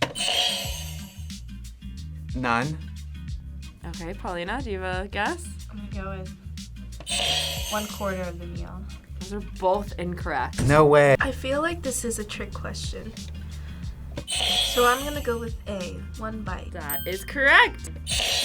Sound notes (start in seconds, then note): 0.1 buzzer rings; 7.1 buzzer rings; 14.2 buzzer rings; 18.0 buzzer rings